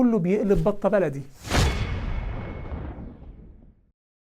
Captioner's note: sound effect